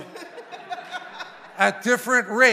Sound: congregation laughing

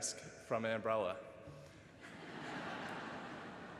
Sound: laughter

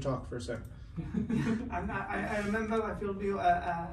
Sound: laughing

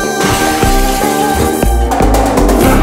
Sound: glass breaks

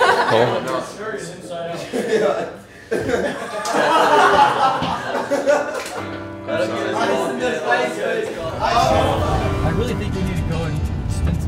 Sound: laughter

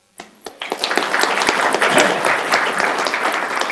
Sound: applauding

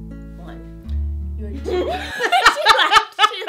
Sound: both laugh

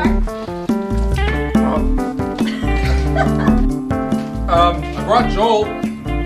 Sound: laugh

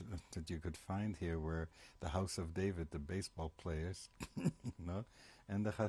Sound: laughs

